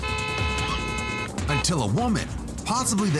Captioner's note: car horn